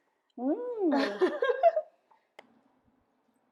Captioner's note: laughing